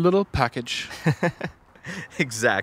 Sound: laughs

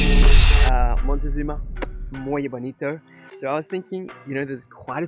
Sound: speaks in foreign language

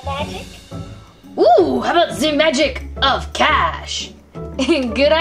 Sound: voiceover

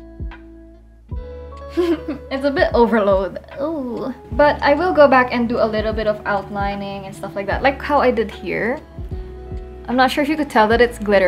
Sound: giggles

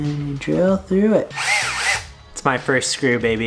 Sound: drill whizzing

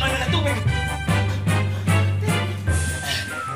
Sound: panting

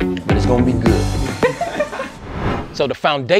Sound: laughing

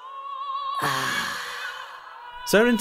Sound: disgusted sigh

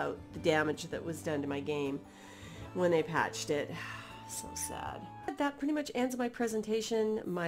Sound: sigh

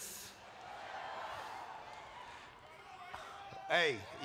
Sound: applause

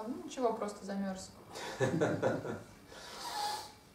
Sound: hahaha

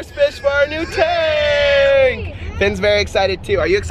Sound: screams

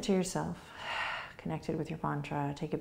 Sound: exhaling

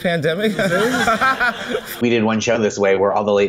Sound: laughter

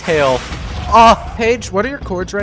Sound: explosions

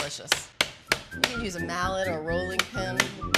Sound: whistling

